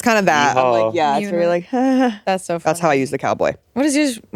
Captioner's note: nervous laughing